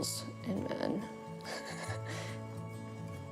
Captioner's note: laughs